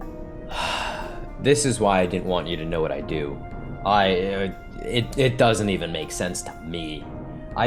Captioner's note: sighs again